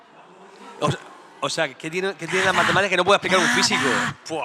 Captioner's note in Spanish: susurrando